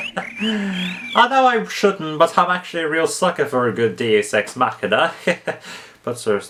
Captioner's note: laughs; laughs